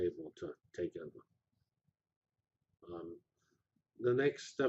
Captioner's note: pause